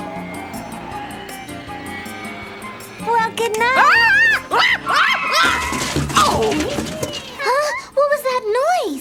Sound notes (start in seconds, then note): 4.6 crashing and yelling